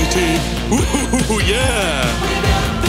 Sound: chuckling

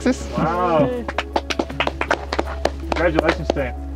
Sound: clapping

